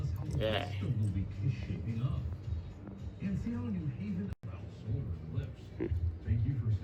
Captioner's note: TV continues playing